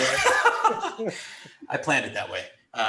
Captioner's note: laughs